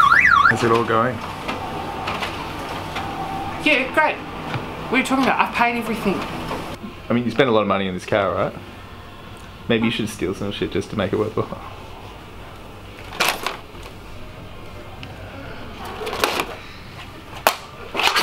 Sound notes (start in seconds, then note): 13.2 bag rustles